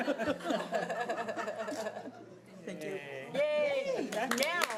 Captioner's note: audience laughing